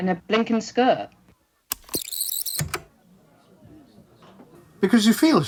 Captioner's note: tape recorder rewinds